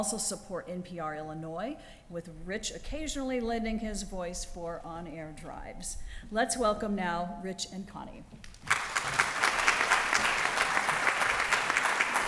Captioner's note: applause